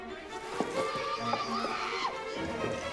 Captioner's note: woman screaming